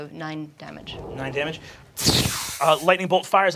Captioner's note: fizzing electricity